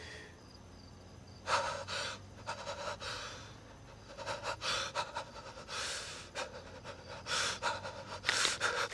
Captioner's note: GUARDS breathes heavily; crackling of bones